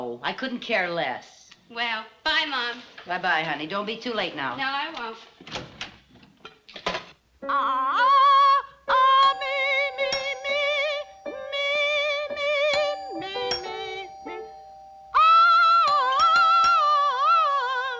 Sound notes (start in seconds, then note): 6.8 singing scales, playing piano; 9.2 doorbell ringing; 11.4 singing scales